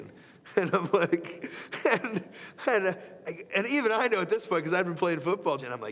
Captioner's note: laugh